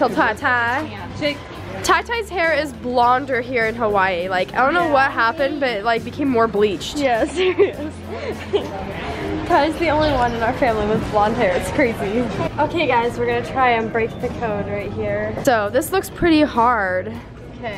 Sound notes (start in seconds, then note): 7.0 laughing